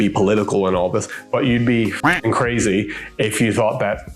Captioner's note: duck quacks